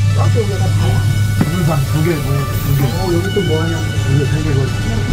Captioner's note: muffled chatter